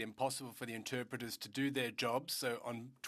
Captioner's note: speaking French